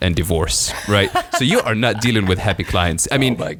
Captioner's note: laughing